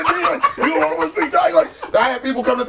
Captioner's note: cheering